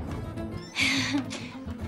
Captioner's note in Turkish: Gülüyor